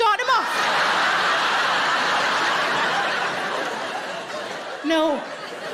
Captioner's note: audience laughing